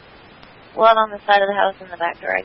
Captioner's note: radio traffic